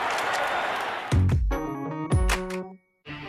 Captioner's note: camera shutter icks, owd cheering